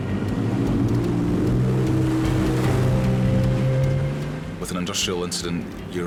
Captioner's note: boat revving away